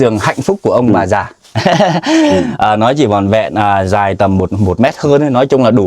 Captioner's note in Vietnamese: tiếng cười; hắng giọng